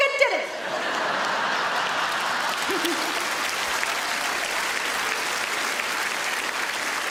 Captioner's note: audience laughs; audience applauds